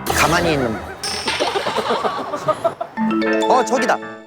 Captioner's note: sigh